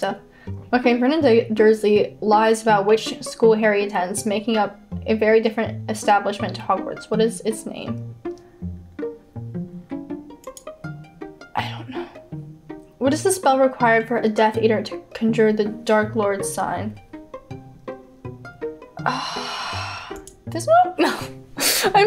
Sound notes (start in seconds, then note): 19.0 sighs